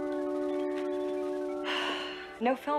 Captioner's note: sighs